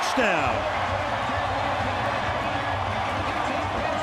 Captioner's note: crowd cheering